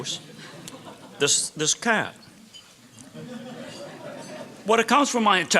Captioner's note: laughter